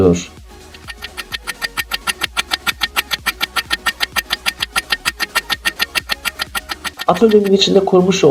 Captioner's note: clock ticking sound